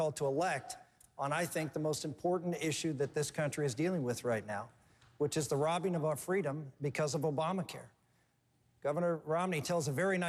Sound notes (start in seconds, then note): none